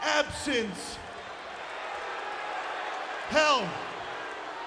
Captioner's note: audience booing